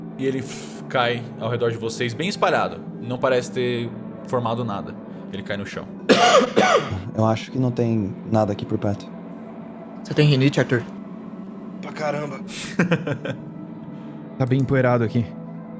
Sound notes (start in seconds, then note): 6.0 Arthur coughs